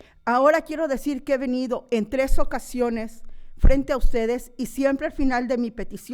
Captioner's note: continues speaking in foreign language